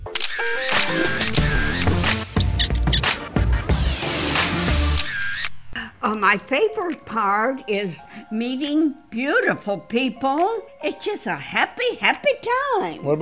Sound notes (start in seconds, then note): 0.0 camera snapping; 2.6 teats squeaking; 4.8 camera snapping